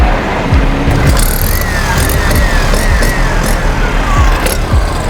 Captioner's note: saw screeching